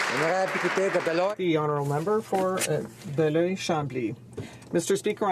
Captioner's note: applause